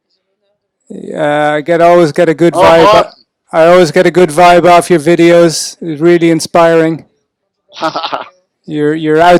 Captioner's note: laughs